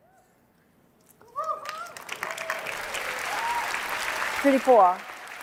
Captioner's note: applause